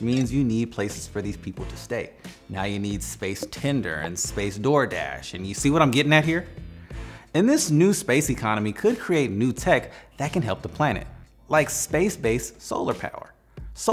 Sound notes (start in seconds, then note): 3.4 graphics blipping